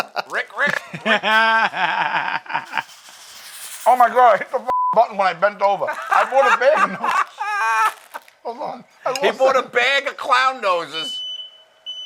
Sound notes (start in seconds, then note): 2.1 laughs; 5.8 laughter; 10.9 fire alarm sounding